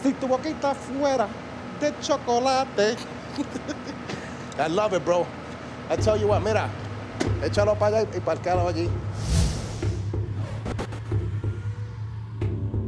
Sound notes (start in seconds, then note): 3.0 lorenzo laughs